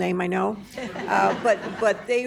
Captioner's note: laughter